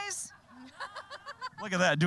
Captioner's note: all laughing